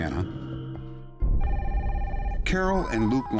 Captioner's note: telephone ringing